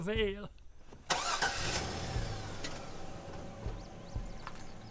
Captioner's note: truck engine rumbles